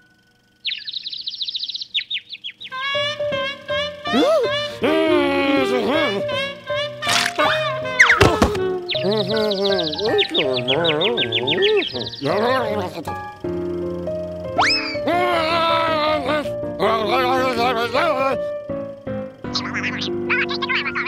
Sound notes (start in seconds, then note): 0.5 birds chirping; 2.7 trumpeting laughter; 4.8 frustrated grumbles; 8.5 confused grumbles; 8.6 birds chirping; 14.9 angry yelling; 14.9 frustrated yell